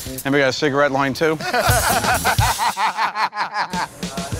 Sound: laughter

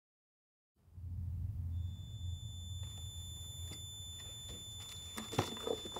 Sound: piercing note, getting louder; bag rustling

